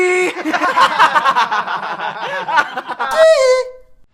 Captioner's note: laughter